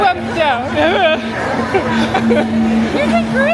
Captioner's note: laughing